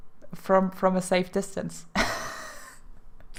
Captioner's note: laugh